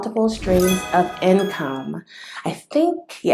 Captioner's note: sound effect